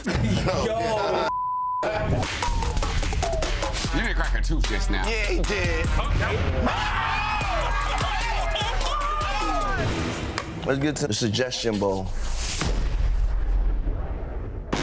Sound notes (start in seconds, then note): 1.3 beep; 6.5 everyone shouting; 7.3 everyone laughing